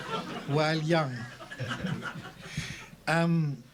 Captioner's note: laughter